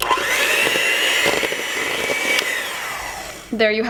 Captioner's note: mixer whirs